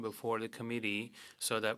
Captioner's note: speaking French